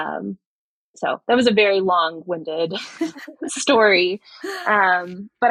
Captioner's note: <Laugh>